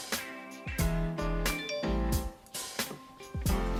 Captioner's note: phone chimes